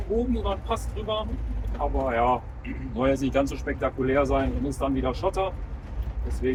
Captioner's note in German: räuspern